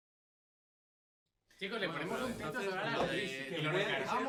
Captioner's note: talk in spanish